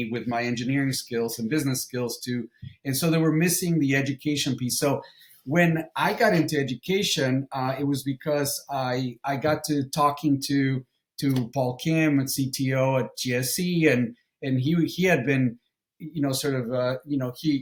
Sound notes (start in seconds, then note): none